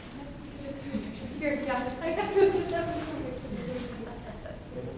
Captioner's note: photographer chattering